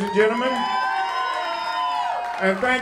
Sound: cheering

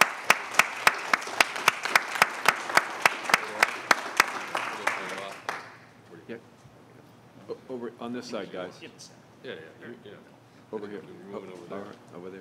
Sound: applause

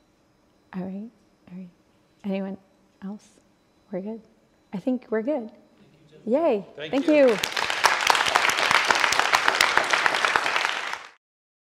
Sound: audience applause

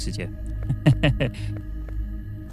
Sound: laughs

